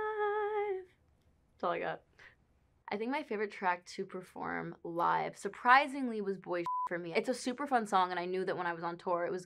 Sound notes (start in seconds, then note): 6.6 beep